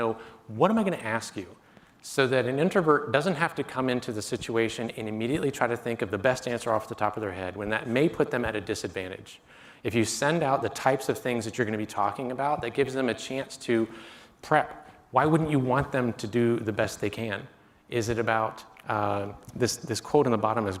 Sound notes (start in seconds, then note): none